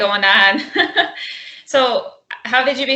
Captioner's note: laughs